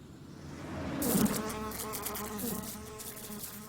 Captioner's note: buzzing